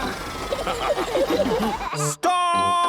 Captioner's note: all laughing